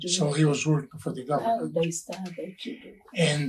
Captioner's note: speaking faintly